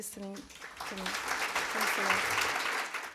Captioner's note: claps